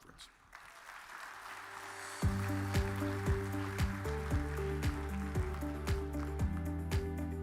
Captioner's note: audience applause; uplifting music